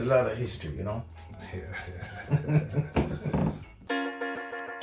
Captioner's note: laughing